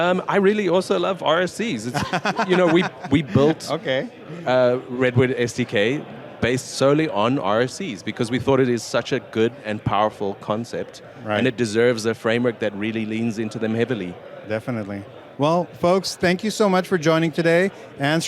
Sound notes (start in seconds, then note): 1.9 laughing